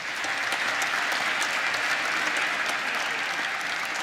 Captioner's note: applause